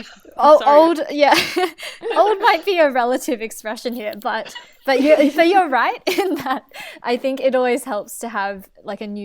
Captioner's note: hosts laugh; laughs